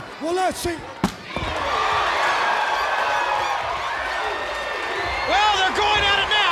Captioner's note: crowd clamoring; blows thudding